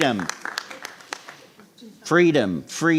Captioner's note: sparse applause